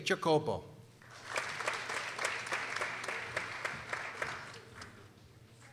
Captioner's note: people applauding